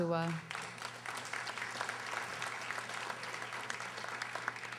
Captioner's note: audience applauding